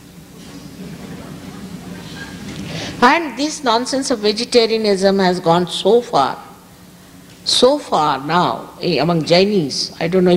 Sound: laughter

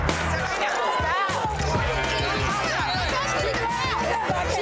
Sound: crowd clamoring

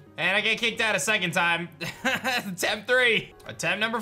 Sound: laughs

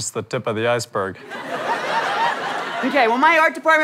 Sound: audience laughter

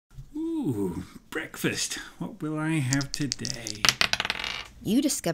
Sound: sounds of dice being shaken and thrown

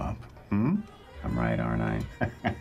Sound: laughing

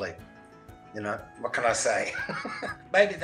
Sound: laughs

